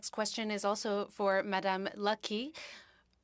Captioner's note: speaking in French